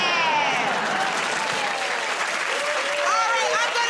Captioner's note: cheers and applause